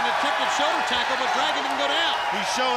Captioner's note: crowd cheering